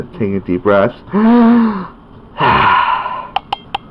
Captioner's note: breathing